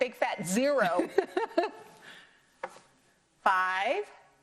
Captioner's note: laughs